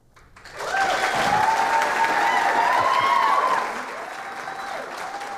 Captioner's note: clapping